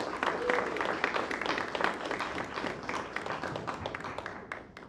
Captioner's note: applause